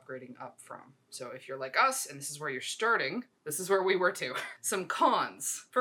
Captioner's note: laughs